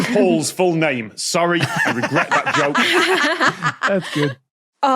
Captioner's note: guests laugh heartily